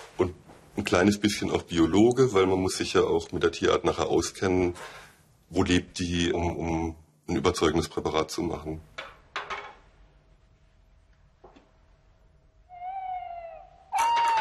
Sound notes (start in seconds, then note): 9.0 soft rattling; 12.6 owl calls